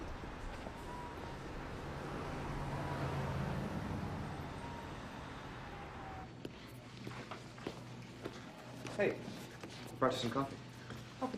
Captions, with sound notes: (engine rumbling) - Hey, brought you some coffee.